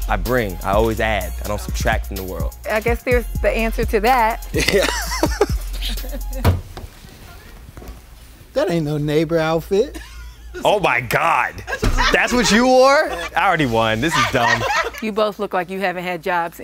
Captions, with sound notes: I bring, I always add, I don't subtract from the world. >> I guess, here's the answer to that. >> Yeah, [LAUGH]. >> That ain't no neighbor outfit. >> My God. That's what you wore? I already won. This is dumb. >> [LAUGH] >> You both look like you haven't had jobs